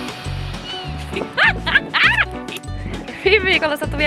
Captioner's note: giggles